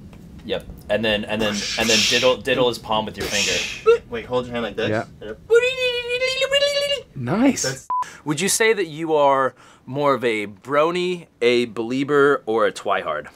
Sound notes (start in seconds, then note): 7.9 beeping sound